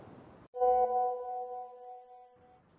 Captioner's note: message alert tone